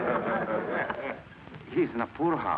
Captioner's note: class laughs